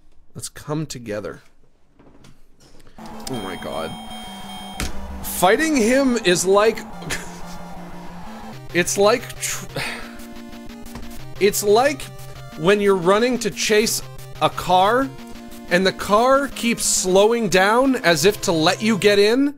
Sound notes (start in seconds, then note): 6.7 laughs; 10.1 scoffs